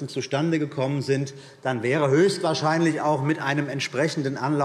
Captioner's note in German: none